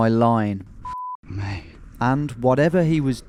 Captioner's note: beep